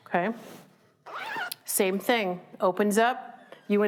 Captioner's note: zipping